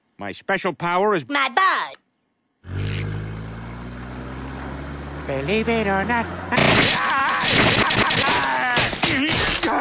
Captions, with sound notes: My special power is my balls [Singing] Believe it or not, I- [VIOLENT SMASHING]